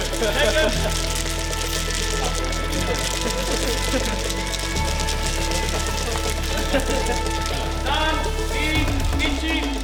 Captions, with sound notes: Shake 'em! [multiple cans rattling] San! Ni! Ichi!